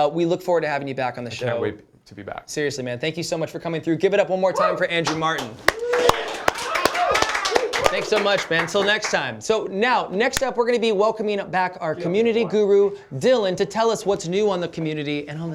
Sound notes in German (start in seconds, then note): 5.0 applaus